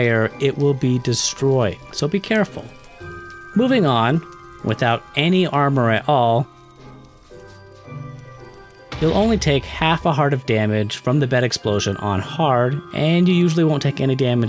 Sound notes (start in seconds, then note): 8.9 explosion